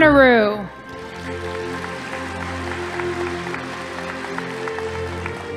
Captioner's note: audience applauding